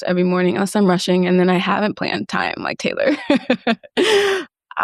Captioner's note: laughs